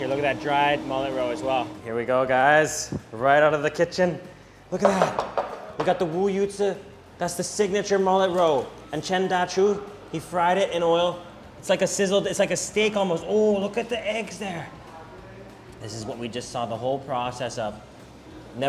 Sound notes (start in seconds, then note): 4.8 plates clanking